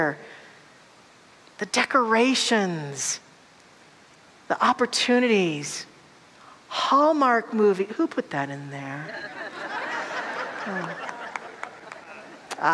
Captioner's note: audience laughter